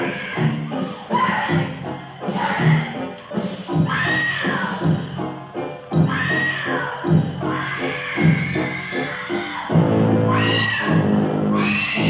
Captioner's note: screams